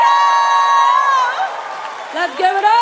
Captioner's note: cheering